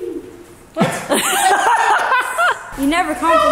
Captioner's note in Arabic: يضحك